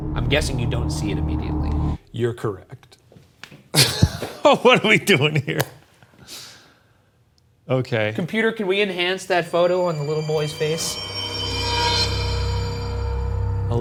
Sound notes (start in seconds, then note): 3.7 chuckles; 11.2 eerie music